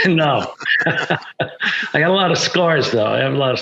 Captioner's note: laughs